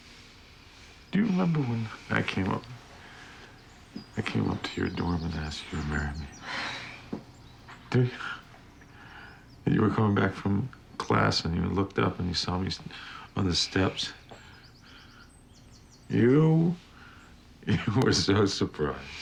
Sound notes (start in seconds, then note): 6.2 sighs; 15.0 chuckling